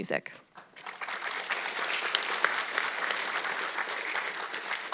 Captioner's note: audience clapping